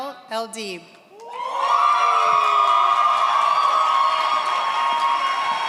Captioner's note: audience cheers